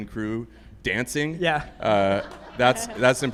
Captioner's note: group laughs